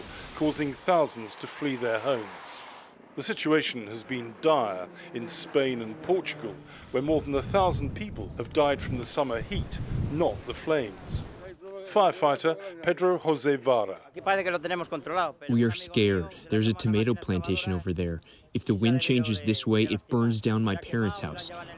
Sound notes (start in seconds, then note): 14.9 through translator